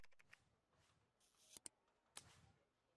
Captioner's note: typing